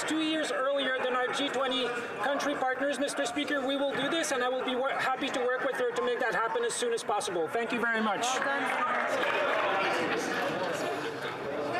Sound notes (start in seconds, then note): 0.8 yelling